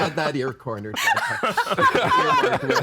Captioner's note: all laughing